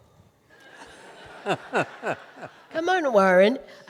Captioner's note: audience laughing